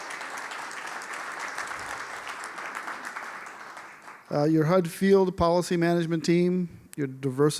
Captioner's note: applause